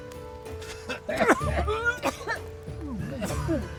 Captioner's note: asthmatic coughs